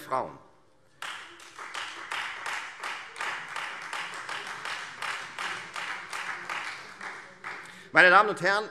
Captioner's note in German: Beifall Freie Demokraten und vereinzelt SPD